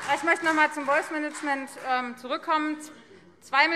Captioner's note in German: Beifall Freie Demokraten, SPD und DIE LINKE